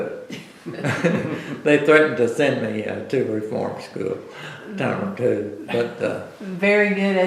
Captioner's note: laughs